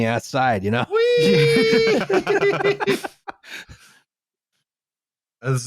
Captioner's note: laughter